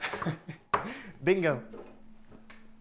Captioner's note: chuckling